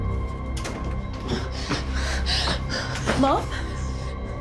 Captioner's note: heavy breathing